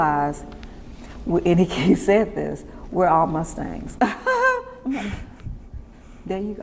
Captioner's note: laughs